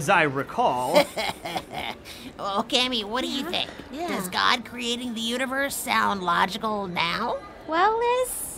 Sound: laughing

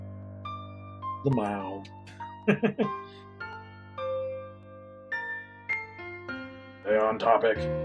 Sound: chuckles

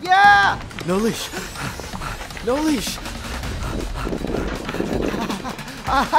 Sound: panting

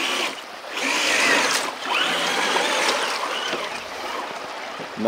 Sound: tires squealing

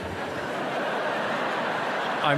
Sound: laughter

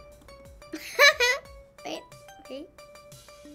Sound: giggles

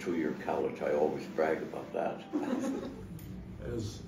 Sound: laughter

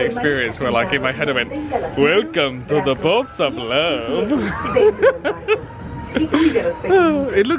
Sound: laughs

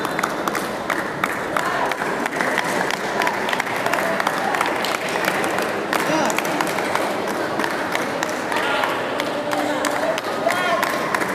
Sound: applause

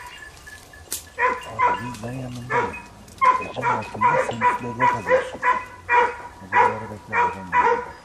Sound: radio

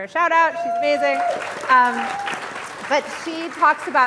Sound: audience applauding

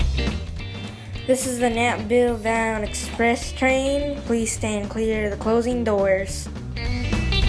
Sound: NYC Accent

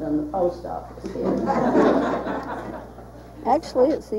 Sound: audience laughing

